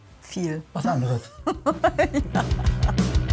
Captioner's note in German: lacht; Rockige Musik